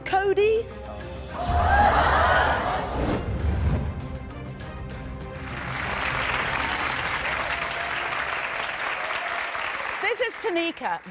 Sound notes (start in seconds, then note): 1.4 audience gasps; 5.2 audience applauding